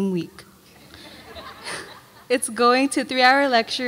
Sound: audience laughs

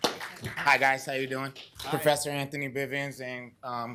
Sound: applause

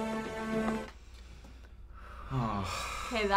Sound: heavy breaths

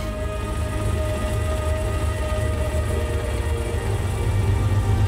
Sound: car engine runs

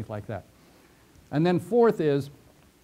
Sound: pause

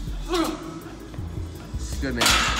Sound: grunts

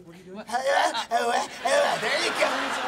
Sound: grunting

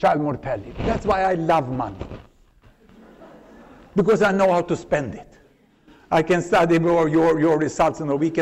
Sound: laughter

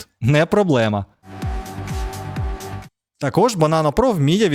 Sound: engine sound, music

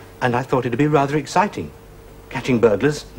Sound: none

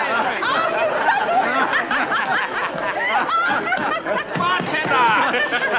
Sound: people chuckling

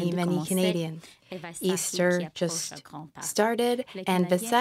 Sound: speaking French

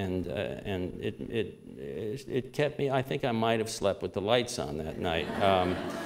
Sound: laughter

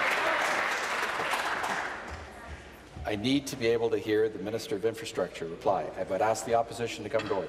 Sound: applause

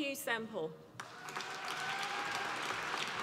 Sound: applause

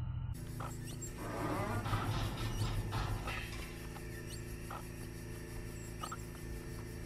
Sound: machinery

